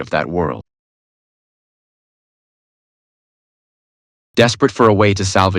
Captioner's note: silence